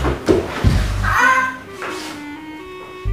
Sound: caws

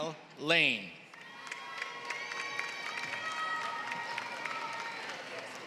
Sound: applause

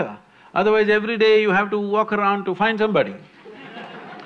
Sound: laughter

